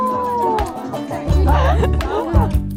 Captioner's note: blows a kiss and they both laugh